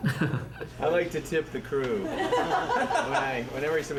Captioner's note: people laughing